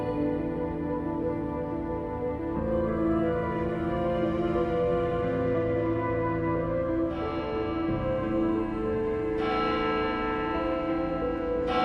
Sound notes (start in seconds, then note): 6.6 church bell chiming